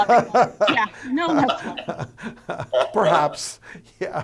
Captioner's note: laughs